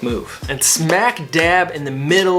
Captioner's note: hands tapping